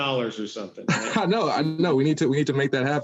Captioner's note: laughing